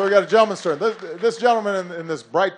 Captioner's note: applause